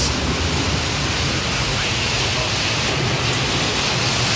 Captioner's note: water rushes